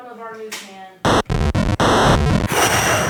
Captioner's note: static